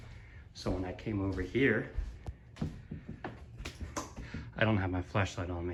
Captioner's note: footsteps